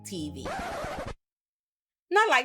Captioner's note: record scratching